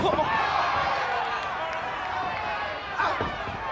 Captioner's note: audience cheers